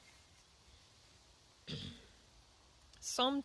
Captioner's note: clears throat